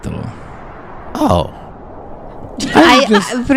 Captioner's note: laughs